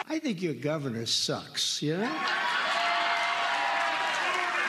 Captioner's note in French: cheers and applause